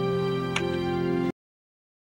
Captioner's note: smooch